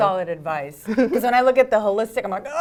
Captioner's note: laugh